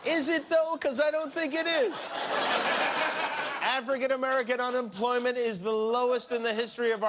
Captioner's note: laughter